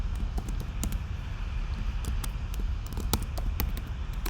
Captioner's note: keyboard clacking